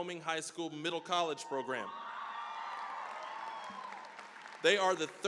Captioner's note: cheering, applause